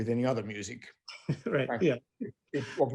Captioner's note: laughing